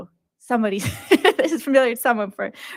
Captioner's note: laughs